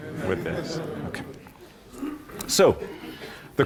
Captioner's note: laughter